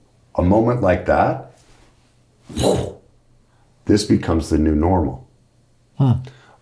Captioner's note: puffs